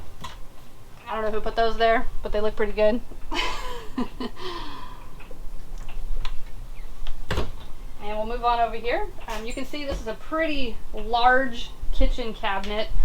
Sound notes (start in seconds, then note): 3.3 laughs